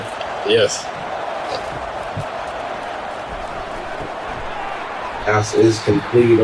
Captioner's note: crowd Noises